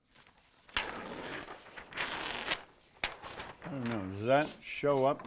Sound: paper crinkles

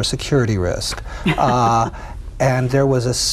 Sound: laughing

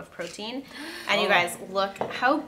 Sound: gasps

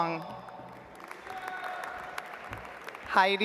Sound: audience applauds

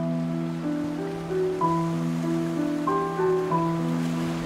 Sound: creek burbling

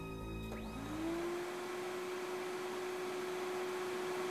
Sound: hoover blowing

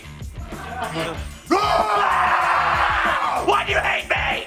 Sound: screaming

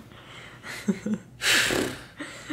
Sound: laughing

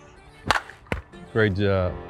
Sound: ball cracks

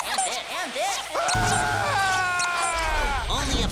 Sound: squeaking; screaming

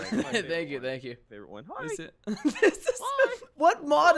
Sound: boys clamoring

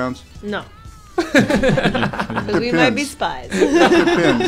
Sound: laughter

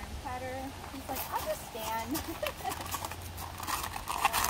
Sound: laughs

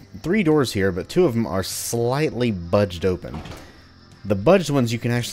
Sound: door opens

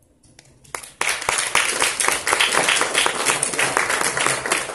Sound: congregation applauding

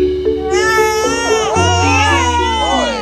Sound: babies crying

